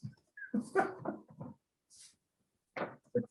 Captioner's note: laughs